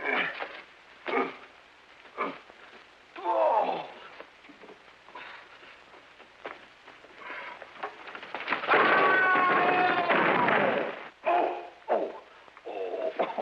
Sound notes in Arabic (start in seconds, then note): 0.2 يئن; 8.7 يصرخ; 8.8 لوح الكي يصدر صوتًا قويًا